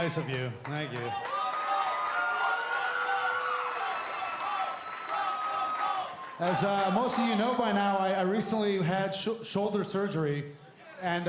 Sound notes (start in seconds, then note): 3.6 cheers & applause; 5.2 fans chanting